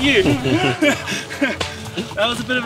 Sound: guys laugh

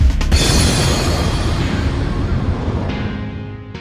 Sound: explosion roars

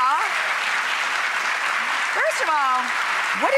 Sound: audience clapping

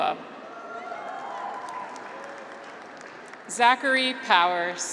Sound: graduates cheer

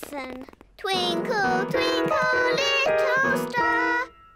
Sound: clunks discordantly

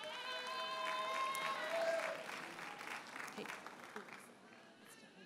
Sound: audience cheers and applauds

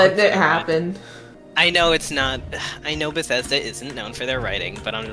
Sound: sigh

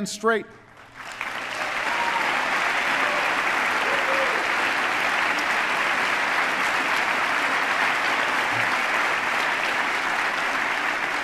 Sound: applause

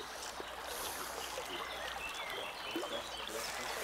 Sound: water splashing, birds chirping

